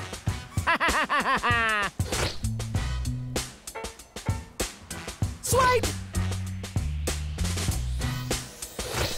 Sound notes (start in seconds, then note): 0.6 laughing